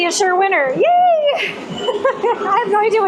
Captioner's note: laughter